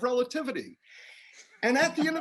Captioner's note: laughter